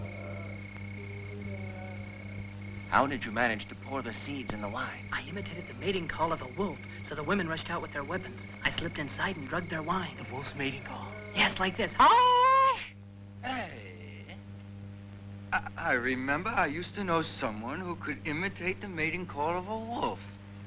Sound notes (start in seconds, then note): 12.2 howling